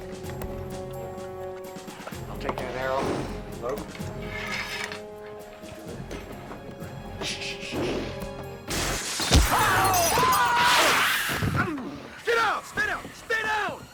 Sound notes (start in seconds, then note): 7.2 shushing; 9.3 groans; 9.4 screams